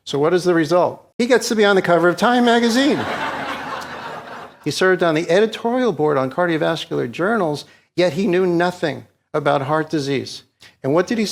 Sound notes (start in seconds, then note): 2.7 audience laughs